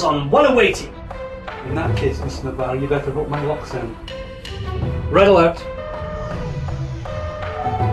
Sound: klaxon

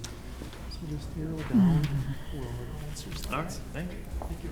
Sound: speaking faintly

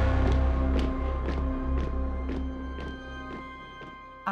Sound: marching feet

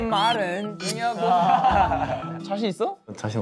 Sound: laughing

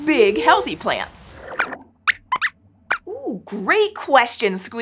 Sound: squeaks squeaks

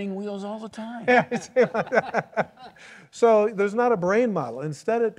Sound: laughs

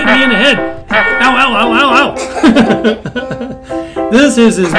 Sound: laughing

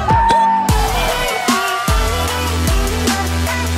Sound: cheering

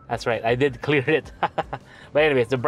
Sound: laughs

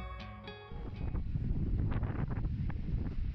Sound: wind

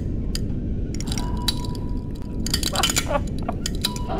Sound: carbon fiber cracking gets louder and more frequent

